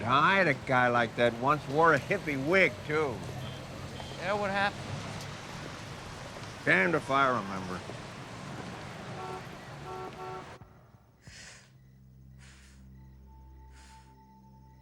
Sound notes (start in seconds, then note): 9.4 horn honking; 11.2 Jill exhaling softly